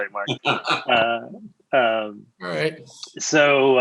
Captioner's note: laughing